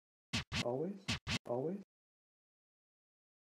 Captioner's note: record scratch